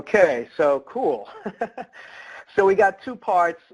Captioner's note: laughs